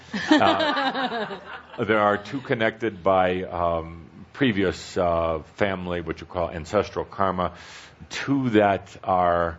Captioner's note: laughter